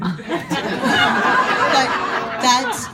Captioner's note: audience laughing